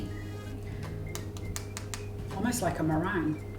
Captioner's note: taps